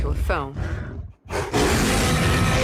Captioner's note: roars